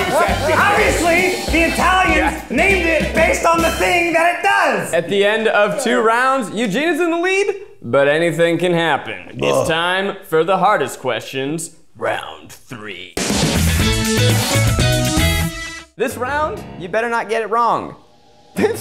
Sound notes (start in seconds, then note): 9.4 groans; 13.3 bright guitar transition